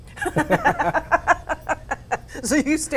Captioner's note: ^laughter^